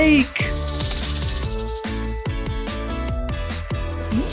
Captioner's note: snake rattling